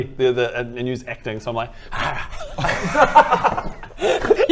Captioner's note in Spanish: risitas